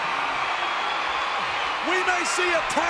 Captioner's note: audience cheering